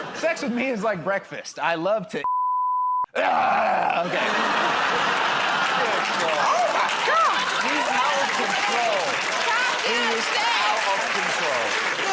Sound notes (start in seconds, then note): 3.2 grunts